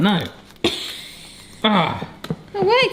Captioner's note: laughs